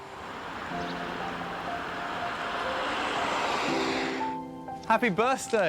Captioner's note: van engine whirring